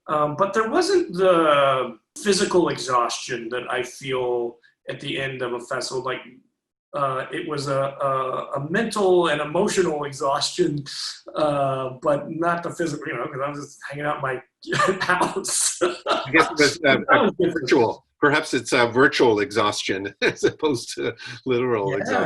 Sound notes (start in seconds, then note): 14.6 laughs